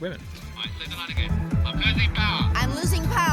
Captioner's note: radio